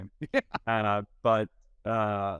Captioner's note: laughing